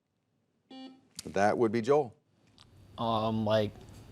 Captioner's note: soft beeping